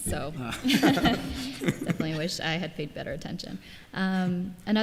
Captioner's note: laughter